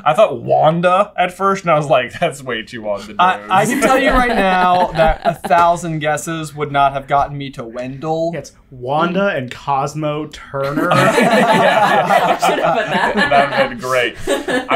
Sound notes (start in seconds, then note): 10.6 laughter